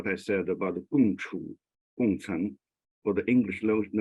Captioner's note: speaks in a foreign language